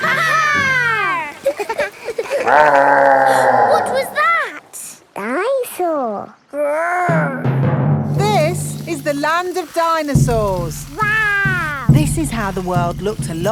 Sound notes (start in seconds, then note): 0.0 laughing; 1.4 gasps; 2.4 growling